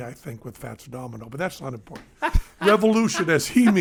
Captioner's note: Glenn laughing